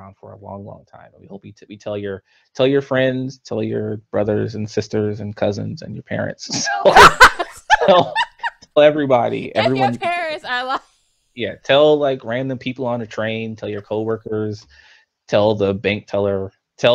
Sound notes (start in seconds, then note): 6.5 both laughs; 10.6 laughs